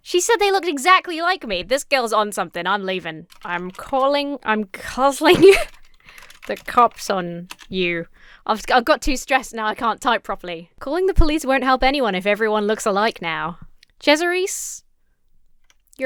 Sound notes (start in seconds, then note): 5.2 laughs